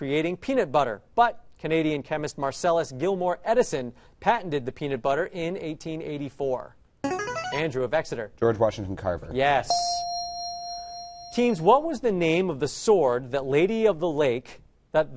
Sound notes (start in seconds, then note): 7.0 answer bell; 9.7 correct answer chime